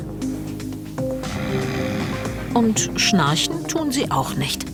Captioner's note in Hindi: खर्राटे